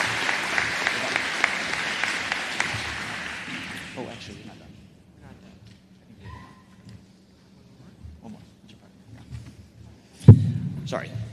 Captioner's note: applause